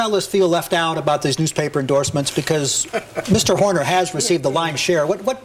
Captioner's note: Tom Emmer laughs